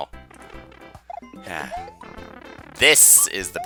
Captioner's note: sigh